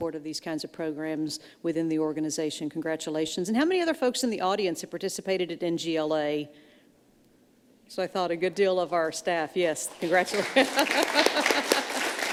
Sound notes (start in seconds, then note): 10.6 laughs